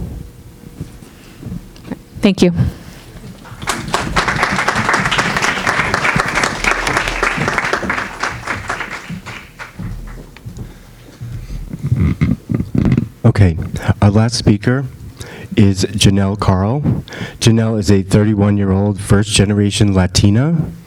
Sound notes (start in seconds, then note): 3.3 audience clapping